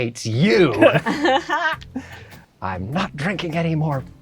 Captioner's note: laugh